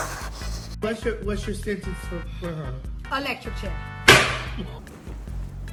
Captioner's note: bam